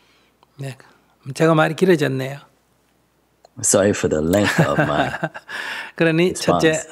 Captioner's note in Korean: 스님 웃음